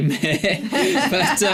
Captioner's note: laughter